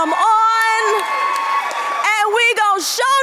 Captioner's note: audience cheering